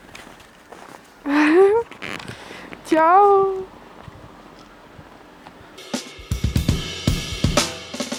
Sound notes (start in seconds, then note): 1.2 laughs quietly